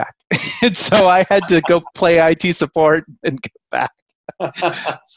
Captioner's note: laughing